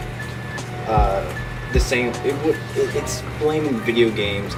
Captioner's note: mutters